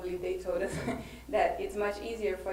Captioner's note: laughs